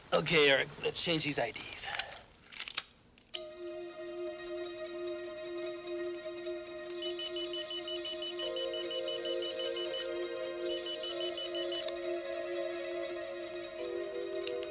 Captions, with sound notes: - Okay Eric, let's change these IDs. (dramatic music) (machine beeping)